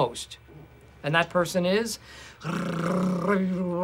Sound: imitates drumroll

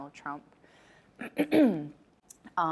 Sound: clears throat

